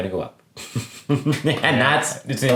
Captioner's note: laughs